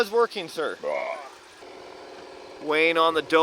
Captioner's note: belching